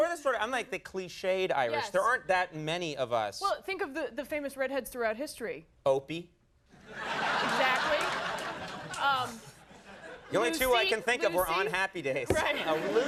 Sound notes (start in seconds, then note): 6.8 crowd laughs